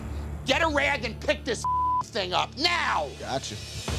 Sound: beep

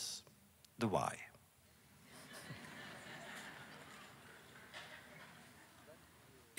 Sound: laughter

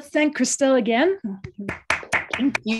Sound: applause

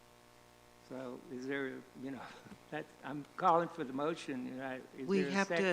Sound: chuckle

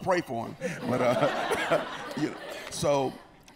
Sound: laughter

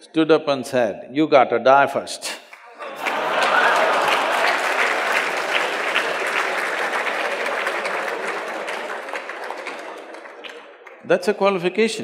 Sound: laughter/Applause

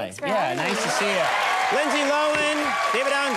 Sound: audience cheering

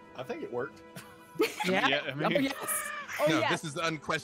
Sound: laughs

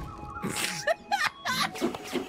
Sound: laugh

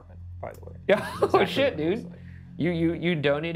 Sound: laughs

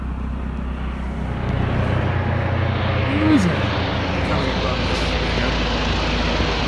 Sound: approaching helicopter

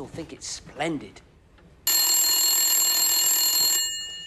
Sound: telephone rings

